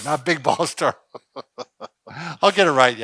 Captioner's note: laughs